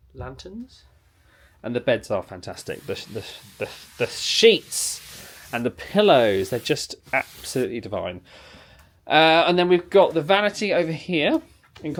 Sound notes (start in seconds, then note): none